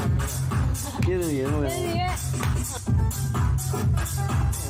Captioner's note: techno Music Playing; laughter; techno Music Playing